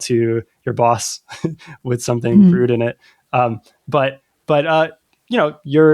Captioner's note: laughter; uh